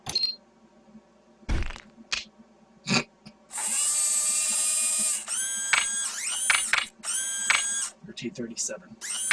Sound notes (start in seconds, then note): 0.5 crumble; 3.5 whirring noises; 3.6 clack, clack, clack, clack